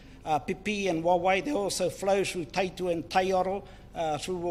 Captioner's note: speaks in foreign language